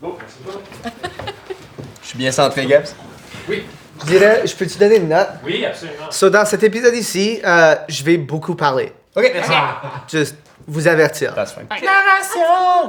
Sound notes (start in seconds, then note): 9.3 Chúk laughs